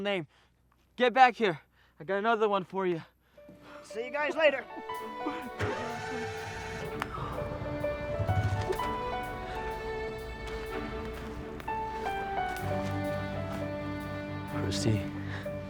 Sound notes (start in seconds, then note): 5.1 lighthearted music; 6.4 car motor running; 7.6 lighthearted music